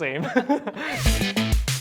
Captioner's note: laughs